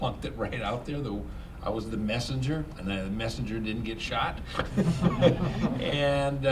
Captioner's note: laughter